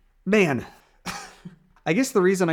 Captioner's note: chuckling